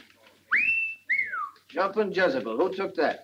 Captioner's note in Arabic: يصفر